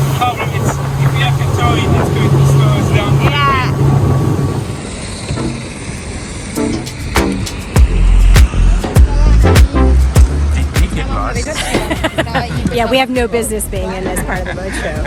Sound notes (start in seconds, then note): 11.5 laughing